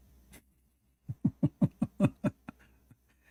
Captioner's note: Ketawa